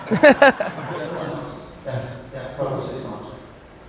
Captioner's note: crowd laughs